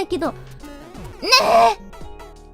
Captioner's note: in a cute voice